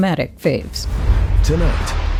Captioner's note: soundbite of tv show, "the bachelorette"